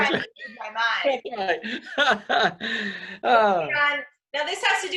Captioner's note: laughs